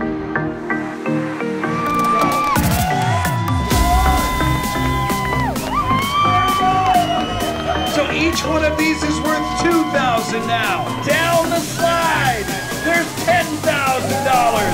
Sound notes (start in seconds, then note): 2.3 cheering; 14.5 cheering